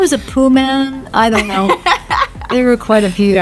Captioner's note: Hannah laughs